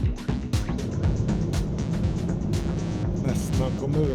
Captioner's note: car humming